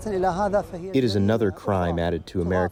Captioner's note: through translator